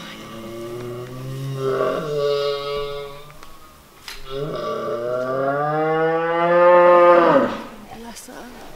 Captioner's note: mooing noises